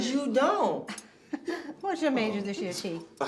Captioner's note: Ernestine laughs